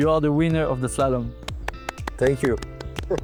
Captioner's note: clapping